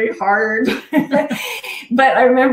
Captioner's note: all laughing